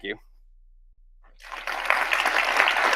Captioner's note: audience claps